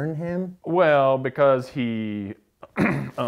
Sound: cough

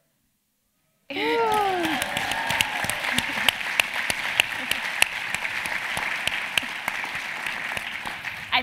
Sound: applause

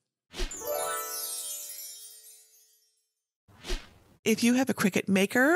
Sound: stars tinkle

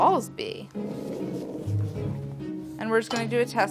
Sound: dog growling

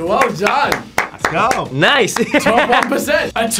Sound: laughs

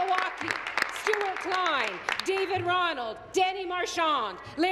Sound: applause

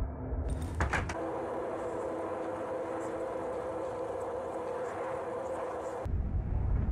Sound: ghastly humming

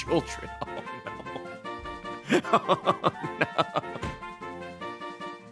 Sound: laughs

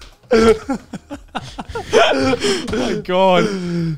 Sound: all laughing

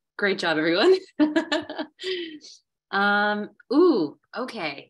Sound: laughing

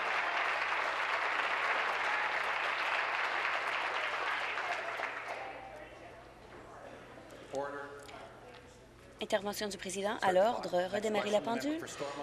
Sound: applause

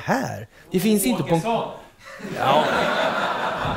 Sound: laughter

